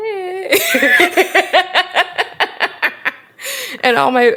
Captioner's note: both laugh